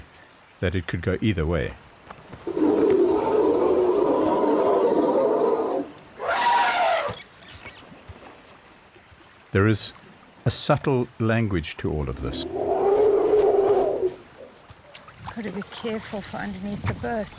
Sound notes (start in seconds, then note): 2.3 animals calling; 2.4 trumpeting; 12.9 trumpets